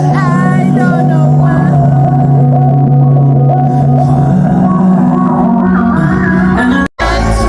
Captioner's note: sobbing and editing at the same time